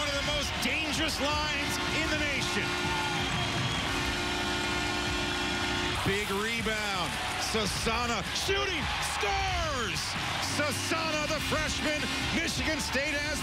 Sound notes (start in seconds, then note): 2.5 horn; 4.1 cheering